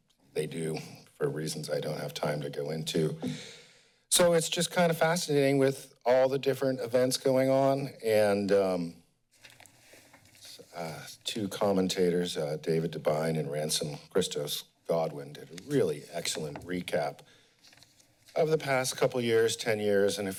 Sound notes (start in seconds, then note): 3.2 inhales